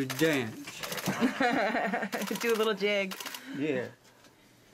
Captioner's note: giggling